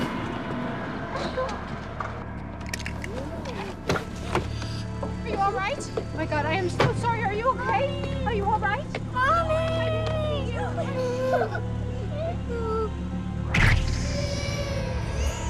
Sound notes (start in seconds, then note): 1.1 whimpers